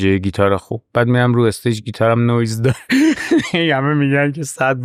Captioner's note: laughs